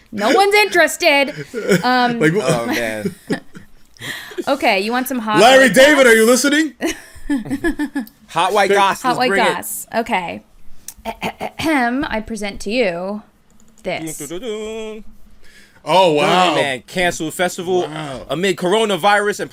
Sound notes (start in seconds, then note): 3.2 laughter; 6.9 chuckles; 12.1 clears throat; 14.1 singing